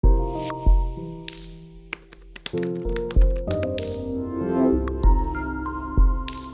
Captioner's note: typing on Keyboard; background Music